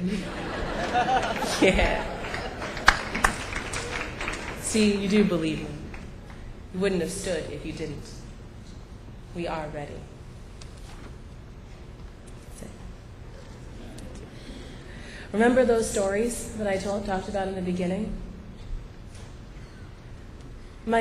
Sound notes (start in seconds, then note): 0.0 laughter; 3.2 applause